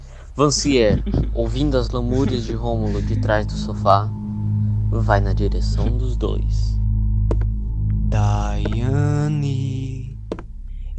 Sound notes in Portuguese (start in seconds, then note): 7.2 Passos lentos de Vancier